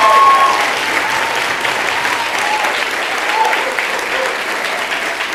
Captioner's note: applause